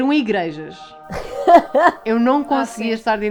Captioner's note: laughs